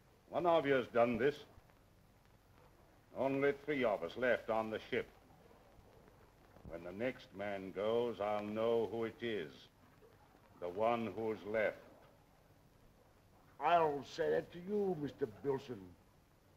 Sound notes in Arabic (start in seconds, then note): none